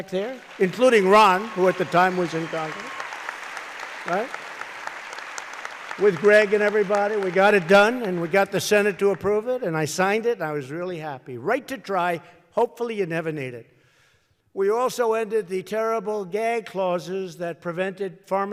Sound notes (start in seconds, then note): 3.8 applause